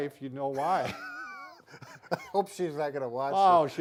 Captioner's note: both laugh